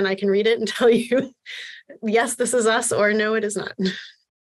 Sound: laughter

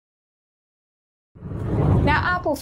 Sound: air whooshes

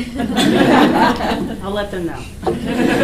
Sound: laughing

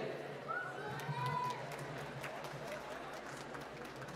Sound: applause

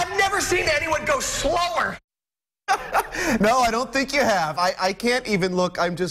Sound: laughter

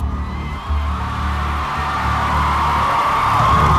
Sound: crowd cheering

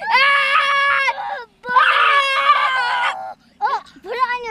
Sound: screams

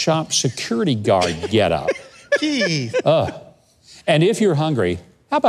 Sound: laughs; groans

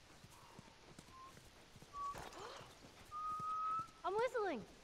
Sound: whistling

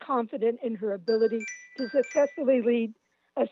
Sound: chime

